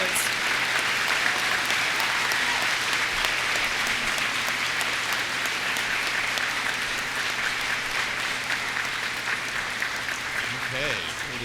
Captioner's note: applause